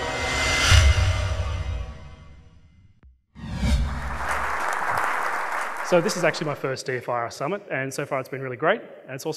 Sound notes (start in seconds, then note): 3.8 audience clapping